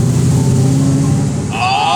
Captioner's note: engine roars